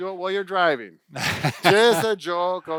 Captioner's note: laughs